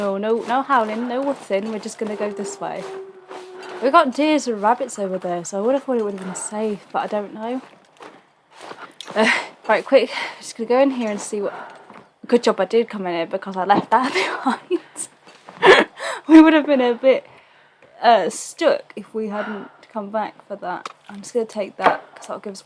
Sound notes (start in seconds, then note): 15.3 laughs